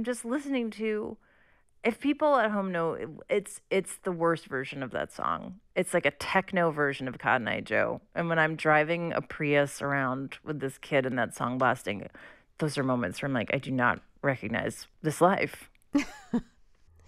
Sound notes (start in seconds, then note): 15.9 laughter